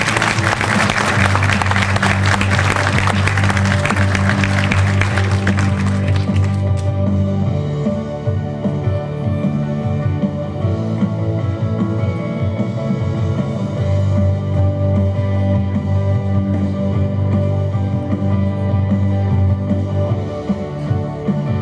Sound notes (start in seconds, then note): 7.9 applause